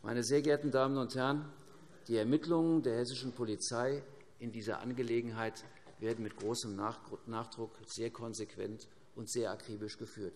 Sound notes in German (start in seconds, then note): none